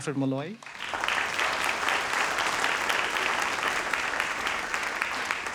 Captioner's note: audience applauds